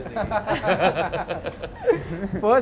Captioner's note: laughs